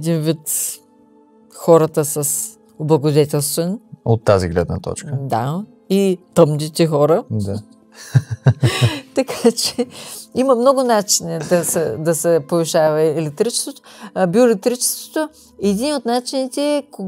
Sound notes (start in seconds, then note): 8.0 laughter